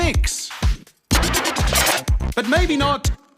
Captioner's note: scratches vinyl